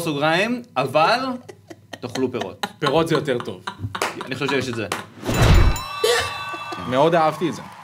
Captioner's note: snickers